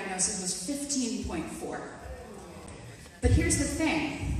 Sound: audience gasps

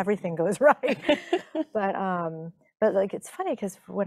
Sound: chuckling

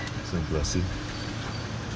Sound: speaking haitian creole; man speaking haitian creole

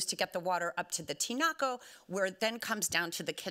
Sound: speaking Spanish

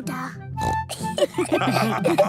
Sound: snorts; all laughing

